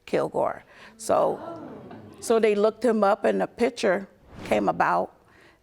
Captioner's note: audience gasping